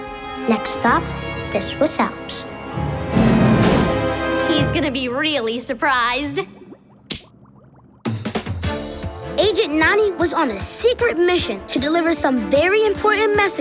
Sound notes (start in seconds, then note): none